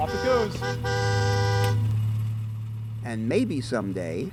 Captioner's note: car horn honking